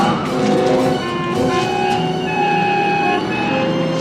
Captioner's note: horns honking